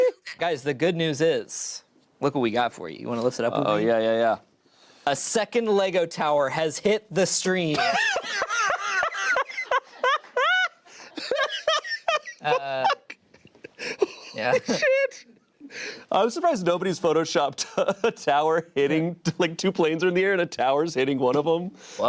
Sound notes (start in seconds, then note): 7.7 laughter